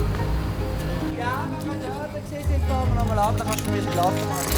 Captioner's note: non-english speech